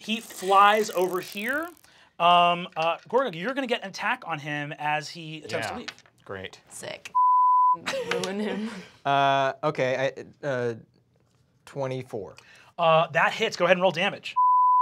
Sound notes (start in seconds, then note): 7.1 beep; 14.4 beep